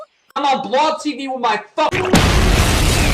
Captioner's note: boom!